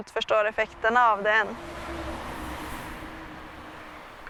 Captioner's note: traffic noise